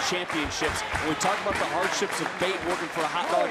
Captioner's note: crowd claps